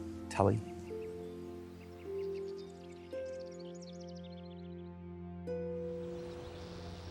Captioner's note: gentle music; birds chirping